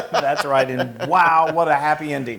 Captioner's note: laugh